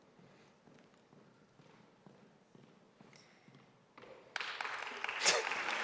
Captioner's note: shoes clicking on floor; audience applauding; chuckling